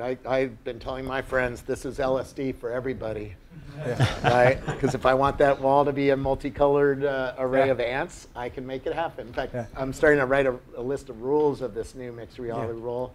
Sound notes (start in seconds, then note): 3.6 laugh